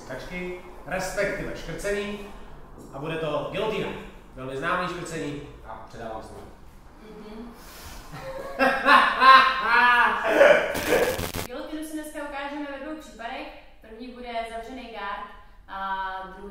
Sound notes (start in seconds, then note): 8.3 immediate laughter